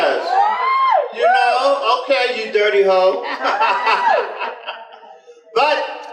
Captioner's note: general laughter